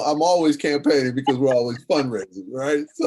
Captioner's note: laughs